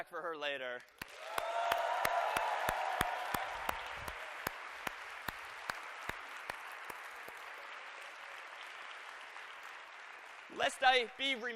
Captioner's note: applause